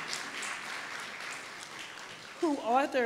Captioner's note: applause